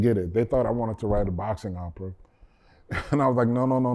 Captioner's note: laughter